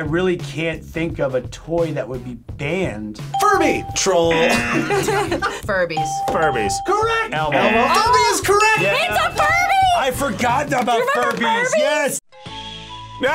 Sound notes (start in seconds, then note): 3.4 buzzer; 4.2 bell rings; 4.3 laughs